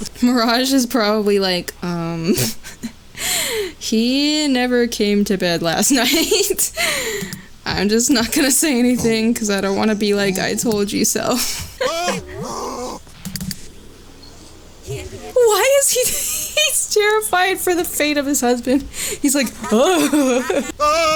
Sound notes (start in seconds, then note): 11.6 groaning in fear